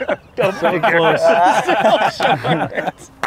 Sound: laughter

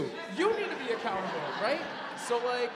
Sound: audience laughing

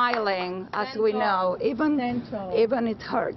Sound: applause

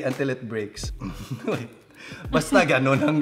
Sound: chuckles

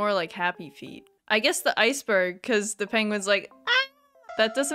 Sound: incoherent scream

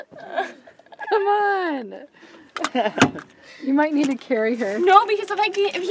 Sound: laughs

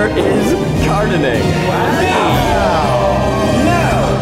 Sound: dramatic orchestral motif; all shouting

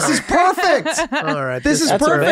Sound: laughing

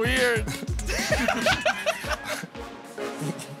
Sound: laughter

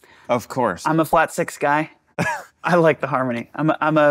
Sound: chuckling

